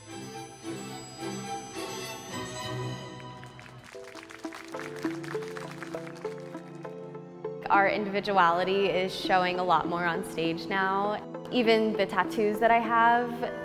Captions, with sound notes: (upbeat music) (audience applauding) - Our individuality is showing a lot more on stage now. Even the tattoos that I have,